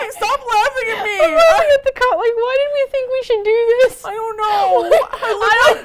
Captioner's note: laughing hysterically